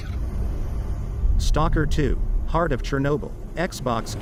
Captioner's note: dramatic sound